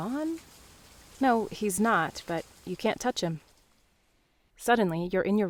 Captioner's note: rain stops